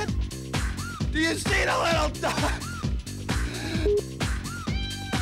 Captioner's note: laughs